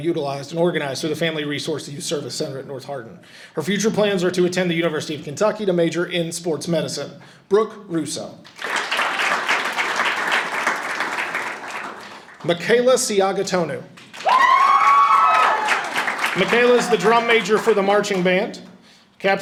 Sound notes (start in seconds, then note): 8.5 audience applauding; 14.0 audience applauding and cheering